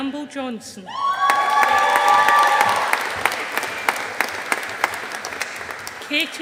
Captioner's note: audience applauding